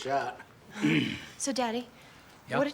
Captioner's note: clears throat